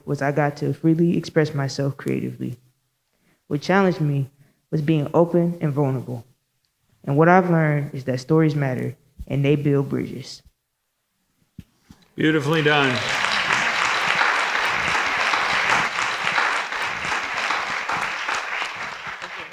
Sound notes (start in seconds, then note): 12.1 audience applauding